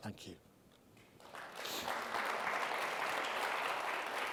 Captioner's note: clapping